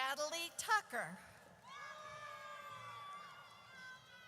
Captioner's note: audience cheers